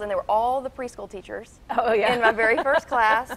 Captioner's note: laughs